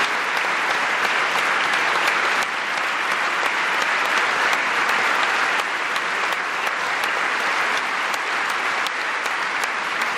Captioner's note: applause